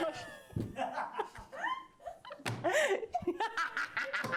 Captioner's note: laughing